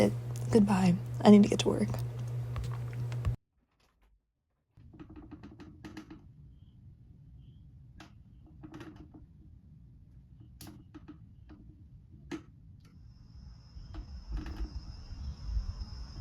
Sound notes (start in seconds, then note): 1.8 audio recording clicks off; 4.9 slow creaking resumes